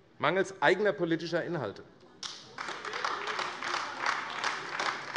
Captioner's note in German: Beifall AfD